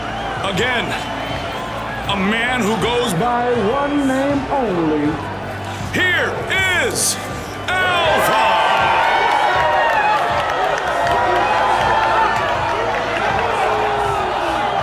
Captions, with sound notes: Again, a man who goes by one name only. Here is Alpha! [crowd cheering]